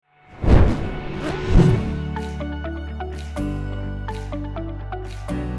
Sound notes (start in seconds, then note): 0.3 logo whooshing; 2.5 upbeat music